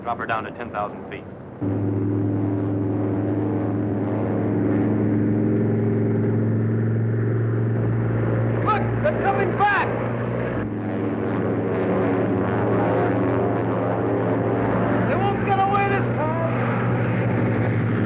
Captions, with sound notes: - Drop her down to 10,000 feet. - Look, they're coming back! (engines whirring) - They won't get away this time!